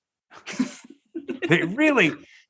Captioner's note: all chuckle